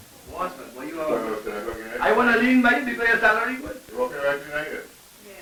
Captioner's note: men chatting, low voices